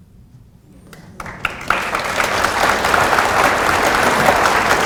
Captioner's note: audience applauding